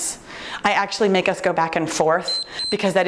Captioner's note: timer beeps